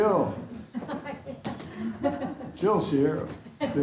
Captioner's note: laughs; laughter